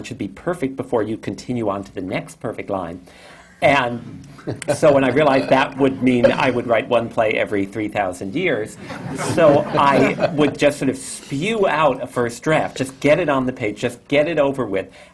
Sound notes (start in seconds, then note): 4.4 laughter; 8.8 laughter